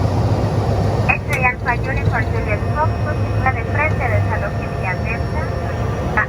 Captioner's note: air traffic control speaking Spanish